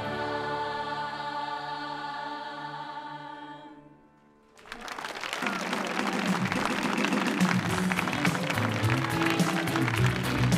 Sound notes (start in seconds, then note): 4.5 audience applauding